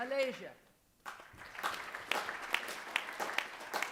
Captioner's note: applause